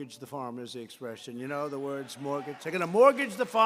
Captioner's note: applause